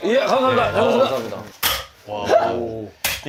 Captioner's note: clang!